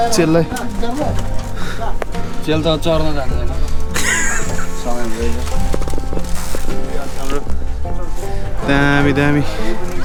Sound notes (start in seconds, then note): 4.8 chattering